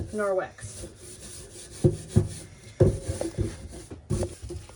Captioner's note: scrubbing